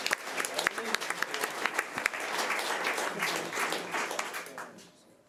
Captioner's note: audience applause